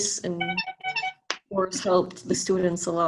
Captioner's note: phone beeping